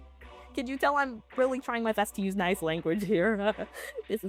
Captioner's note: idiot laughter again